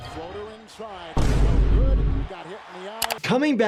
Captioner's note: audio booms briefly; video clicks